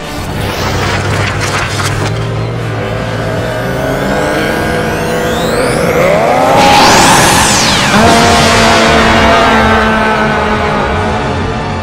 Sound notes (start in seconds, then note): 0.2 growling; 6.1 roars; 8.0 screams